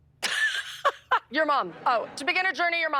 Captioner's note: laughs